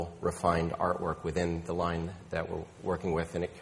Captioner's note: none